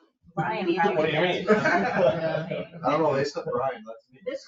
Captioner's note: group laughing